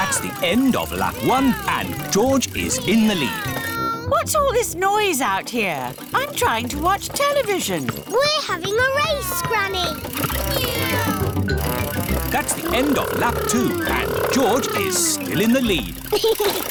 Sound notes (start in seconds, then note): 10.6 kids imitating vehicle sounds